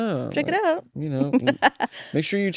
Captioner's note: laughs